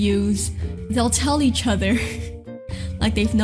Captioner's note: laughs